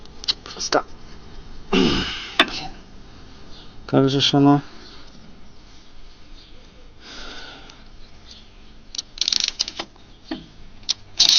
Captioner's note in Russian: кашель; откашливается